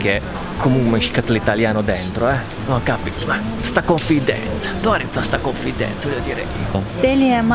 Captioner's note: joking in Italian dialect